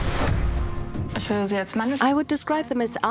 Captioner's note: speaking German